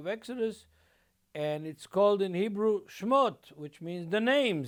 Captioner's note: speaking Hebrew